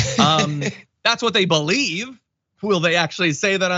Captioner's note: laugh